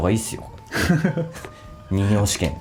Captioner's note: laughs